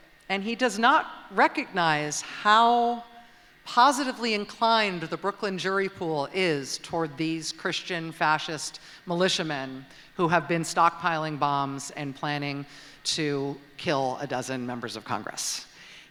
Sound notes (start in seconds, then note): none